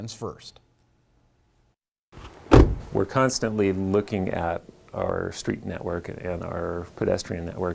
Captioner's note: nat--door slam